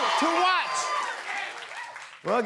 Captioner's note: cheers and applause